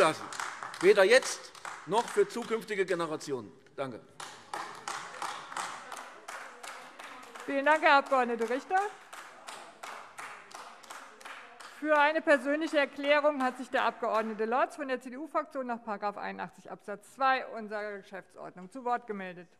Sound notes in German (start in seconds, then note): 4.8 Beifall AfD